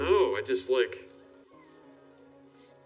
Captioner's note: high-pitched sound